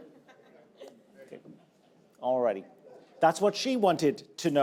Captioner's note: audience laughing